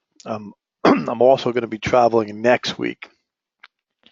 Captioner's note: cough